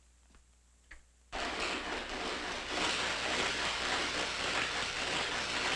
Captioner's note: electricity sizzling